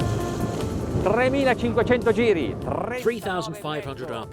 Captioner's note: speaking foreign language